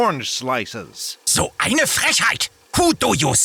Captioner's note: outraged german